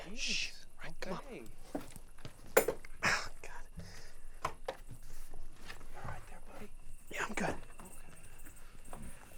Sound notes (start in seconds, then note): 4.3 window clanking